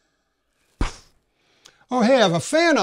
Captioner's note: flick